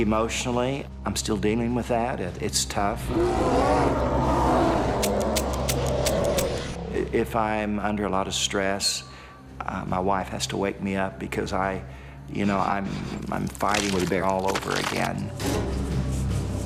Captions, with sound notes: - Emotionally, I'm still dealing with that and it's tough. (bear growling) (gun clicking) If I'm under a lotta stress my wife has to wake me up because I, you know I'm fighting with a bear all over again.